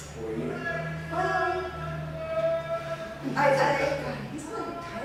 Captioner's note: shouting outdoors